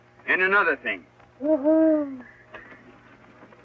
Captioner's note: hoots like an owl